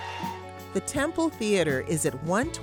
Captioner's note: audience cheering and applauding